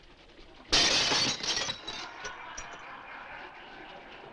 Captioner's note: laughter